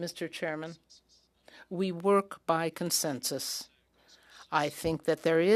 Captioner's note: speaking French